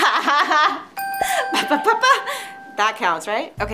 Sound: Francia laughs; bell dings

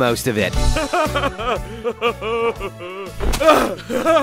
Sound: hearty chuckling

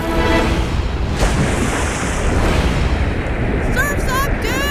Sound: water splashing

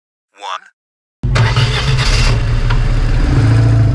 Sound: engine start

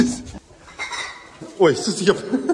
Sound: bottles rattling

